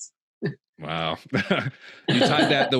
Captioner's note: chuckles